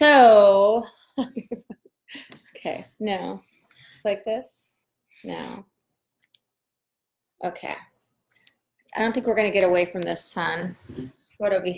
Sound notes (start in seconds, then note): 1.3 laughs